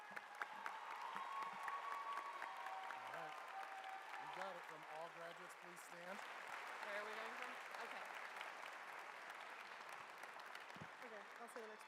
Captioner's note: applause